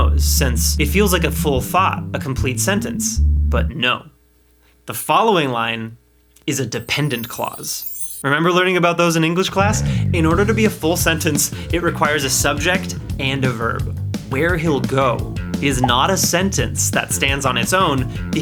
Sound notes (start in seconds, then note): 6.8 glittery sound